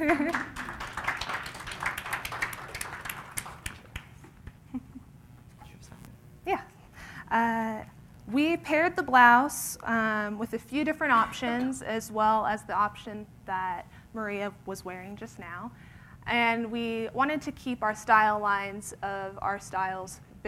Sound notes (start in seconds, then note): 0.0 applause